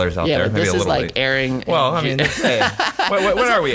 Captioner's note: laughing